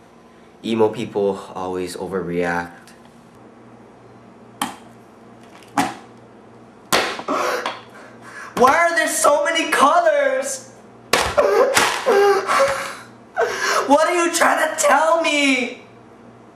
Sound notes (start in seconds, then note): 7.3 gasps; 10.9 weeping